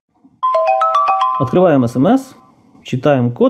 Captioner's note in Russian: звук смс